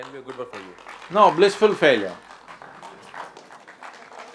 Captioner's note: applause